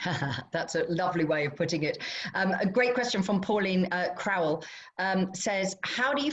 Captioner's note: laughter